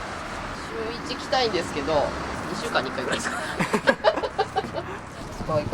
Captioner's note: laughs